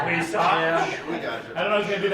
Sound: laughing

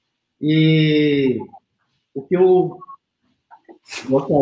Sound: speaks portuguese

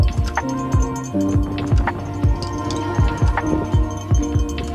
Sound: wind rushing

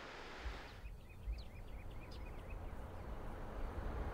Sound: birds chirping

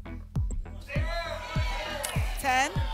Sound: audience shouting numbers

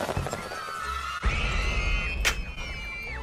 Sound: screams as the children are blown to pieces

